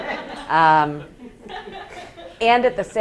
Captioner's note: students laughing